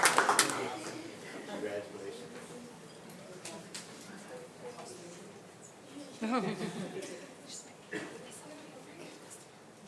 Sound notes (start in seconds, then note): 3.2 board members and attendees speaking faintly